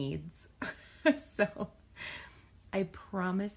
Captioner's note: laughs